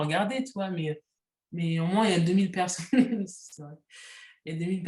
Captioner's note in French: rires